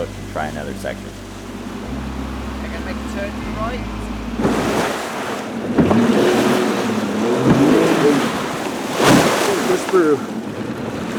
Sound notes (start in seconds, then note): 6.5 boat engine